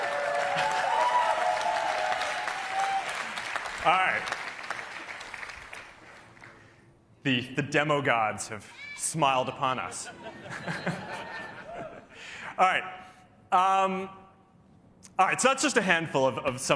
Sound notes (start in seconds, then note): 2.1 laughter